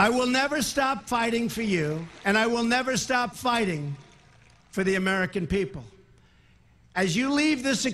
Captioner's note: applause